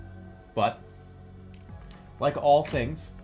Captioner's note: phone clicks